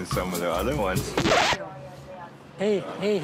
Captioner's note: record scratch